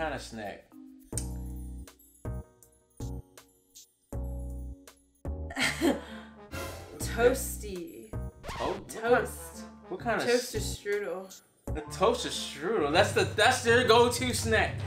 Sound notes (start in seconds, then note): 1.2 sensual music; 6.1 laughs